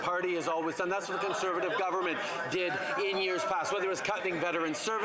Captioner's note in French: voix de l'interprète